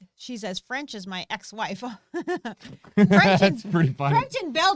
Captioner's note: laughing